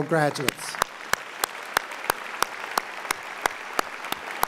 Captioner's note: audience applauding